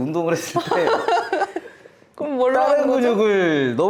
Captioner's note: laughs